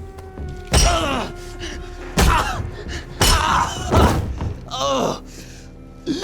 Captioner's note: Elvio groans